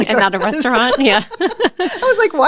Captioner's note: laughing